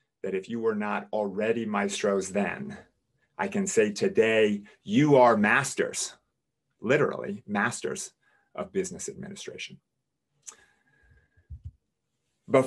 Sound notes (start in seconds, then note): none